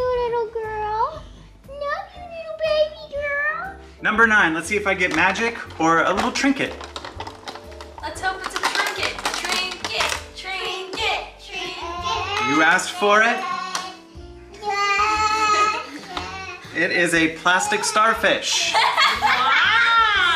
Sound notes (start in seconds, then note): 9.6 everyone chanting; 18.6 everyone laughing